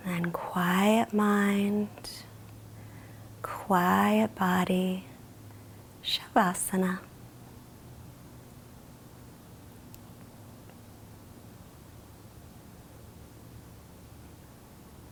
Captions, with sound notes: And quiet mind, quiet body, (speaks in foreign language).